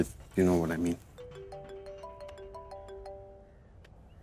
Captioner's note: Phone ringing